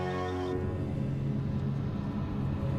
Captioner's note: ominous hum